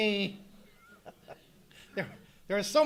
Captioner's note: chuckling